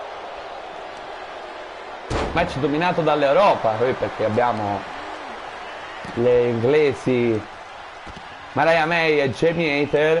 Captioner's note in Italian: Applauso